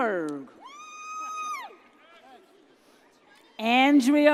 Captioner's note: audience cheers